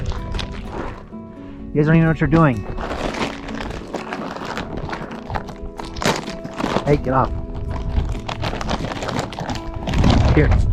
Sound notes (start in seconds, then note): 3.5 plastic bag rustles; 8.2 plastic bag crunches